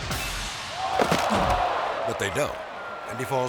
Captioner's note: body thuds; people exclaiming